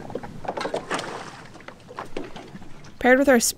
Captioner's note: water splashes